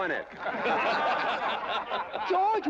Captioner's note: crowd laughing